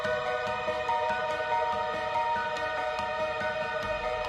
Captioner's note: none